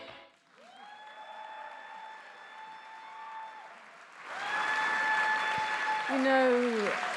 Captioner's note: attendees applauding; attendees cheering; attendees applauding